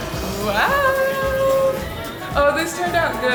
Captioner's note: people chattering